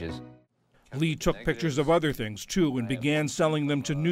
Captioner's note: voice-over